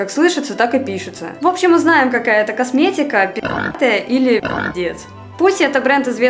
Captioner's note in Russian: хрю